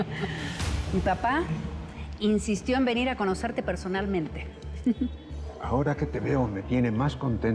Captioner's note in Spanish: Risas